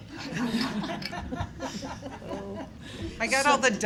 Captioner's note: laughter